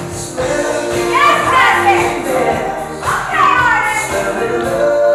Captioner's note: yelling